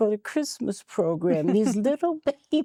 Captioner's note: giggling